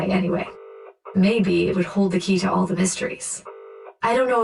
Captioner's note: dialling tone